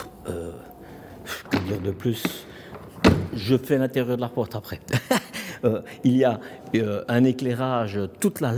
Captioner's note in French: rires